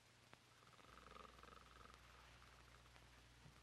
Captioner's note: Murdock snores